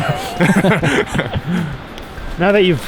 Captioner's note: both laugh